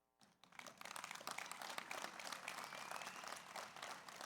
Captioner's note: audience applauds